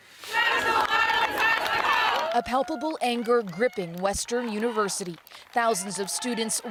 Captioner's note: chanting